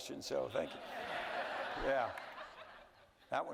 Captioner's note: audience laughing